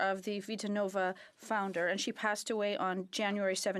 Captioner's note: speaking French